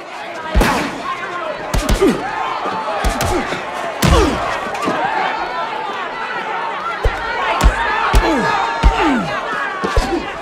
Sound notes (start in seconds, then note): 0.2 grunting; 8.1 grunting